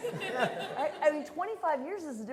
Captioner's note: laughter